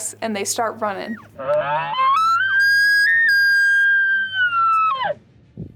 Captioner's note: elk call bugling